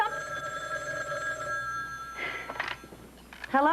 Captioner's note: telephone rings